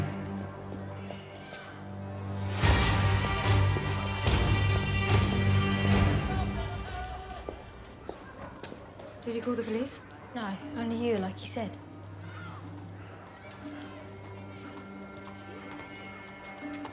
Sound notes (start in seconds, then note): 11.7 people talking in distance; 13.8 running footsteps approaching